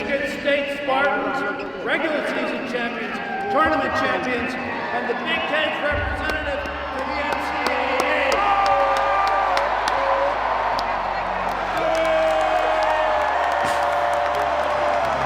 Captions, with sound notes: - Michigan State's Spartans, regular season champions, tournament champions, and the Big 10 representative for the NCAA (crowd applauds). (players cheering)